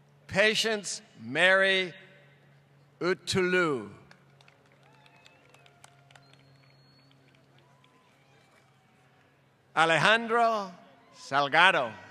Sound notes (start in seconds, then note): 4.0 applause